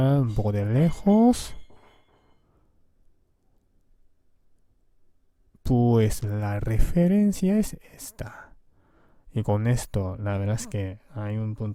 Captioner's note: Spanish